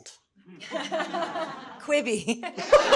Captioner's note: everyone chuckling